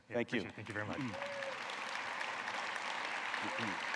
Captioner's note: cheers and applause